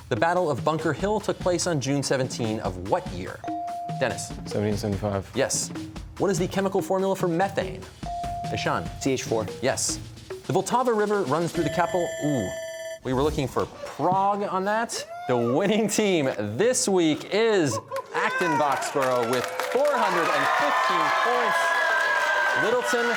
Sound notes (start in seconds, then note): 11.5 bell ringing; 15.0 chuckling